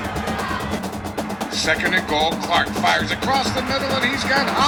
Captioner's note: radio Announcer